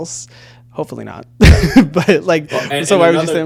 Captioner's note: laughing